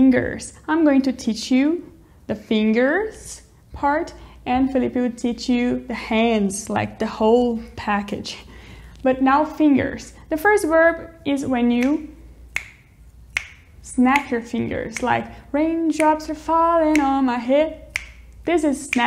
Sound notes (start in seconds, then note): 13.3 snaps